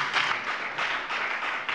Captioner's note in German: Beifall bei der FDP und bei Abgeordneten der SPD